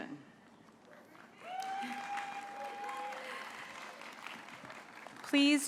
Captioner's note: applause